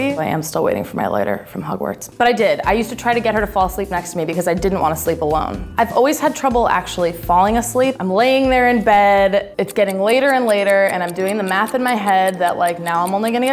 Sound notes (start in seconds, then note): 10.4 clock ticking quickly